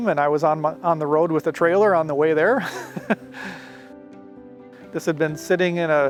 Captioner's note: chuckles